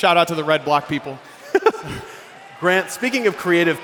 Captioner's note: laughs